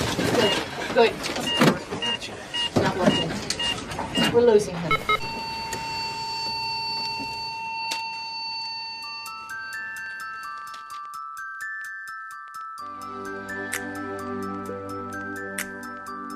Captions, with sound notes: - Good. Not we're losing him. We're losing him. (flat-line beep) (soulful music)